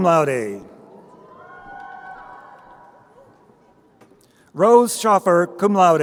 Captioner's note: crowd cheering